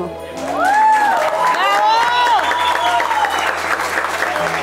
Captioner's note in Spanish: Vítores, aplausos